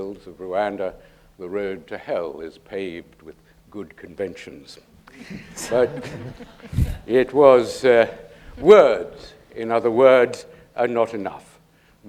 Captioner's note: laughter